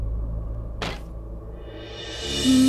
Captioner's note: Door opens